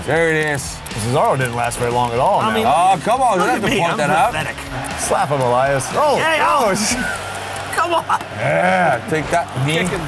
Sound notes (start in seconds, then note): 6.1 yells